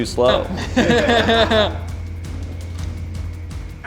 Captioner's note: laughter